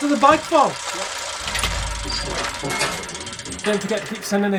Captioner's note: gears clanking